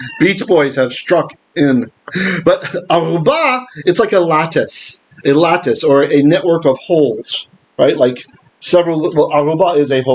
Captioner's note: Hebrew